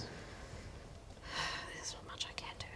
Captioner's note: sigh